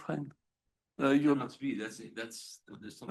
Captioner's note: speaking faintly